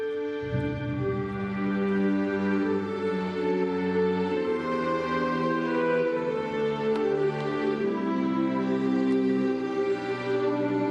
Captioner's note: speaking global language